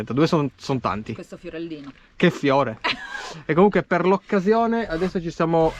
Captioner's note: laughter